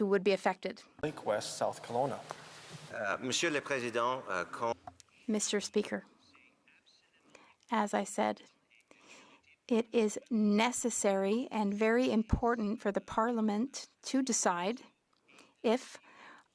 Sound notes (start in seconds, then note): 9.2 speaking French